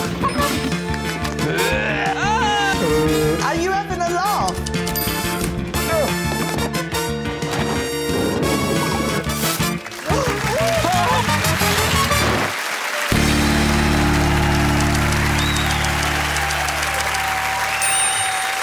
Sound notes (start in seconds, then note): 9.8 gasps; 14.4 cheers and applause